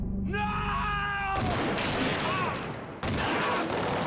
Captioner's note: gunshot rings